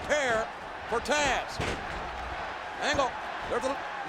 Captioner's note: body thudding